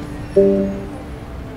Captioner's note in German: Glockenton